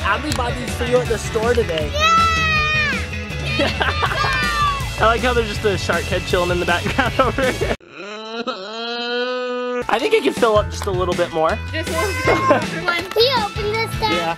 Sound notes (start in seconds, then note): 3.4 laughs; 7.9 baby crying